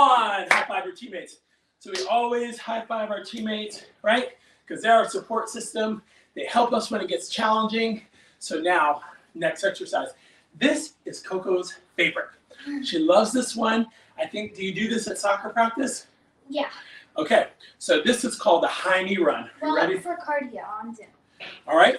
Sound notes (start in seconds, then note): 0.4 claps; 1.9 slaps hands; 12.7 giggles